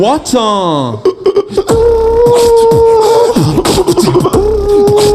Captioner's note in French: beatbox